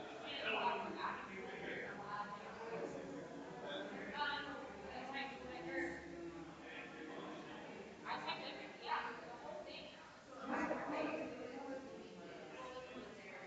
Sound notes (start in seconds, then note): 6.8 people chattering distantly continues